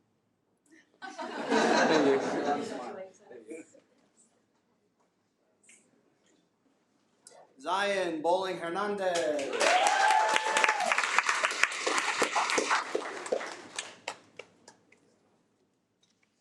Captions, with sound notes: (attendees laugh) Zion Bowling-Hernandez. (attendees applaud)